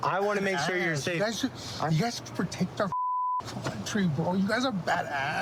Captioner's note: beep